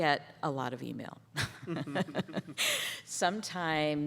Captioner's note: laughter